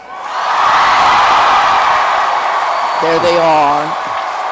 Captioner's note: applause